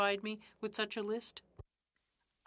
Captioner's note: speaking French